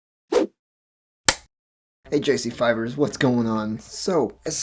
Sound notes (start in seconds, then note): 0.0 whoosh, film clapper sound